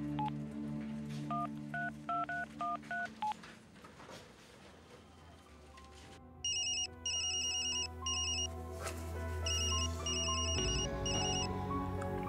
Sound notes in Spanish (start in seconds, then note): 9.3 Suena el teléfono